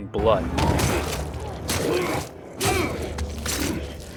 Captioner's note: machete blows land